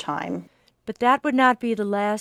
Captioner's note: voiceover